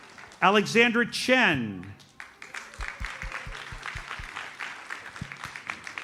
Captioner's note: audience applauds